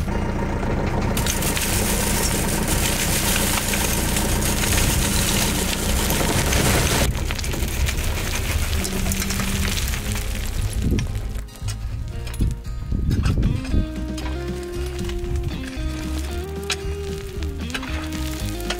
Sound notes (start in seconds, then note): 1.1 loose gravel and stones clattering